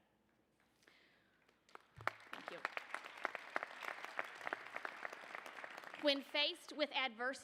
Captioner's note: applause